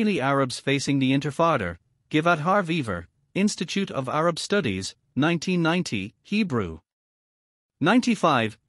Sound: Hebrew

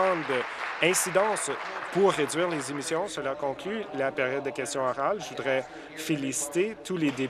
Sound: applause

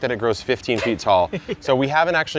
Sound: laughs

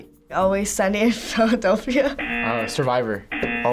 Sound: buzzer rings; bell rings

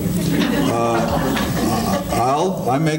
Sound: audience laughing

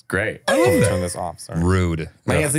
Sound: laughing

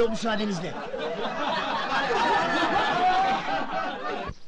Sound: laughing

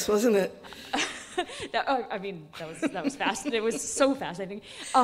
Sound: laughing

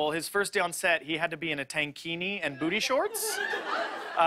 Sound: laughter

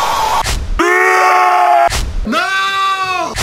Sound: cod zombie noises

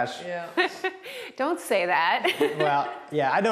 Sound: laughs

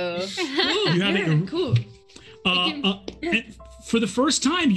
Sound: group chattering

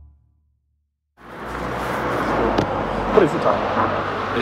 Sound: traffic noises

